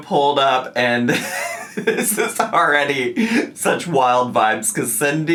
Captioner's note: laughing